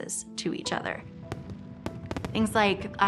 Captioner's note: fireworks popping